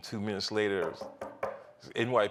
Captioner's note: knocking